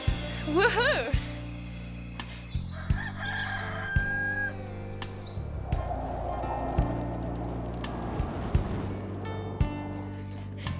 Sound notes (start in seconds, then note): 2.7 rooster crowing; 6.1 peaceful music